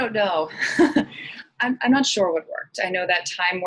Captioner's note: chuckles